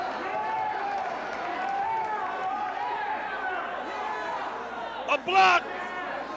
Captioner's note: crowd chatter